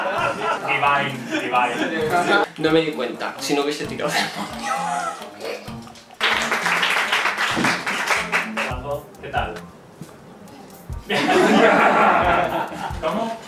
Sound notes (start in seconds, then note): 6.2 applause